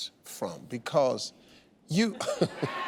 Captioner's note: chuckles